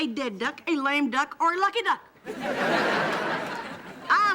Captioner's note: audience laughing